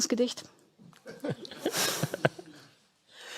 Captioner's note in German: Lachen von Tino Chrupalla und aus dem Publikum